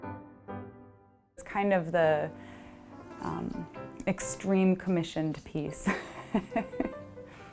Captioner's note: bright music; laughs